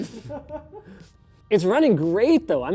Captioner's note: laughing